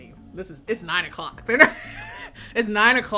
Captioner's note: laughs